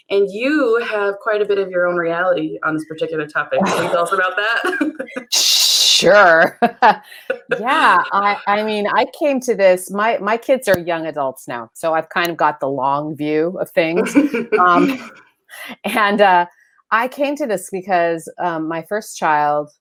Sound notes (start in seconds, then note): 4.6 laughs